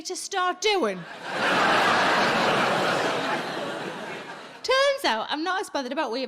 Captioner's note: audience laughing